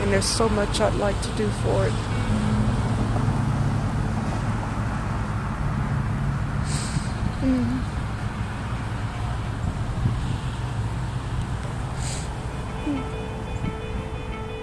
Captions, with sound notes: And there's so much I'd like to do for it. (breathes deeply)